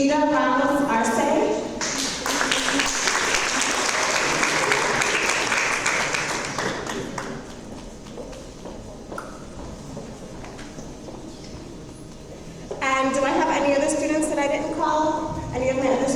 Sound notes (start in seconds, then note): 1.8 audience applause